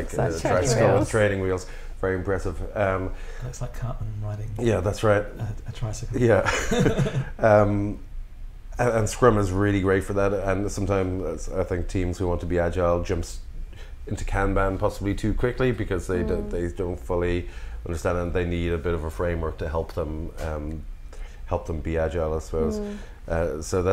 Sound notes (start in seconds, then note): 6.4 laughter